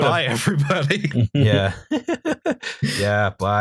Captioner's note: laughter